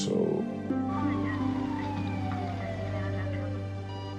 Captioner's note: siren wailing, indistinct talking on radio; monitor beeping